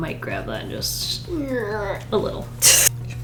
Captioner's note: strained noise; laughs